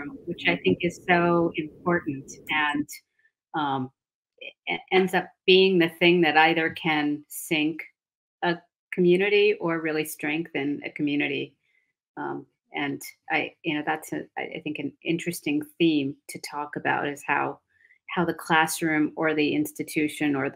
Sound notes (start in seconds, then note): none